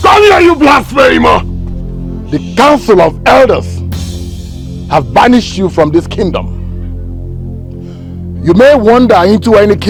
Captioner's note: screaming